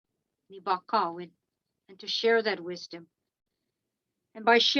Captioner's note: speaking in Algonquin language